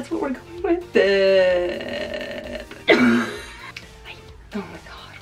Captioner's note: coughing